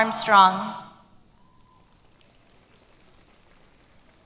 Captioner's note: applause